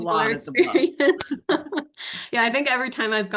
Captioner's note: laughing